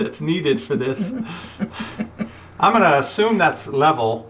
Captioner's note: laughs; voiceover